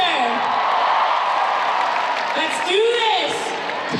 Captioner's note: cheering